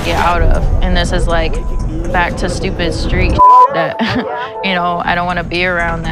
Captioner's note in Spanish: risa ironica